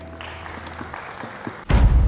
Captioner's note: applause